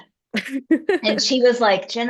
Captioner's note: laughs